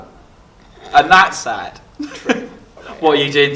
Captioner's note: laughs